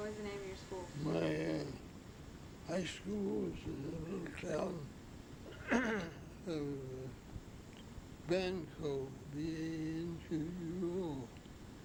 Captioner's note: clears throat